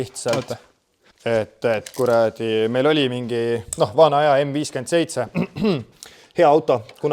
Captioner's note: fake cough